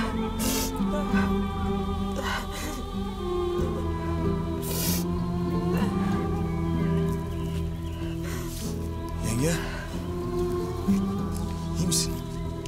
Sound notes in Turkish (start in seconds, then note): 4.8 Ağlıyor